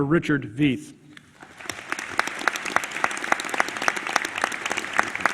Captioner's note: applause